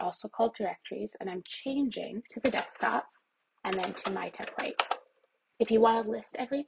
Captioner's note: keyboard types